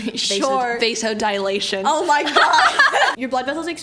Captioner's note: laughs